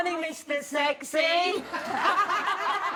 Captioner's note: laughter